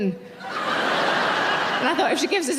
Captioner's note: audience laughing